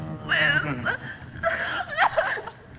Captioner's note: Liz sobs